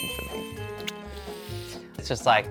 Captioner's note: exhales sharply